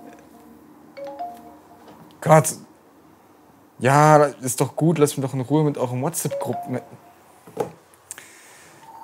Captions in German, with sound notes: *Handy macht Nachrichtengeräusch* Oh Gott Ja ist doch gut, lasst mich doch in Ruhe mit euren WhatsApp Gruppen *Handy macht Nachrichtengeräusch*